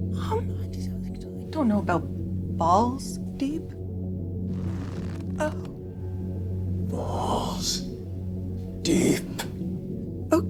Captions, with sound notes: - Um, (stutters) I don't know about "balls-deep". (leather creaks) Oh. - Balls. Deep.